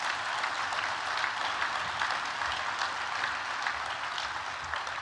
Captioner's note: applause